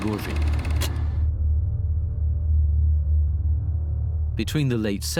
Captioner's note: film reel clicks off